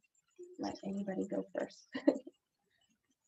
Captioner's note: chuckles